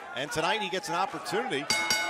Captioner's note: bell ringing